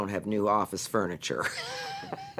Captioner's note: laughing